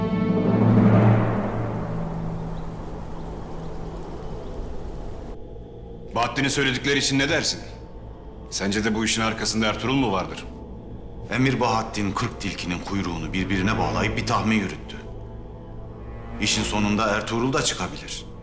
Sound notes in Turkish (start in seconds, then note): 3.5 Rüzgâr sesi